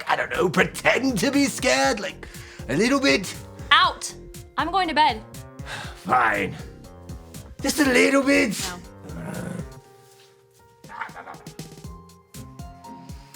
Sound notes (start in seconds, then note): 10.1 groans